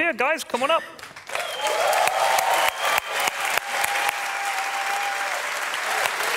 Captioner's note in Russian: публика аплодирует